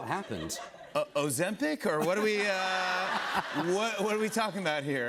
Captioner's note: laughter